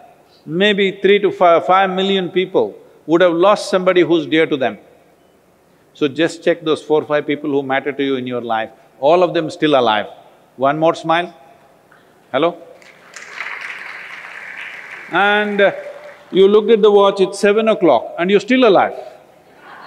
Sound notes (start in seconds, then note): 12.7 applause; 19.4 laughter